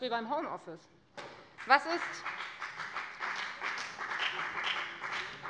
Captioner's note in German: Beifall bei der FDP